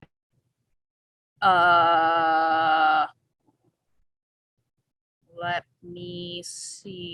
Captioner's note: stuttering